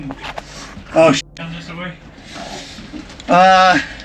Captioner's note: beep